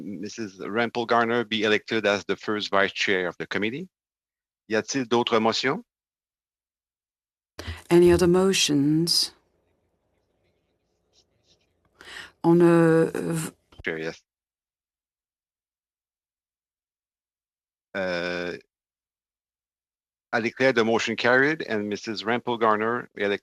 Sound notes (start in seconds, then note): 8.5 speaking French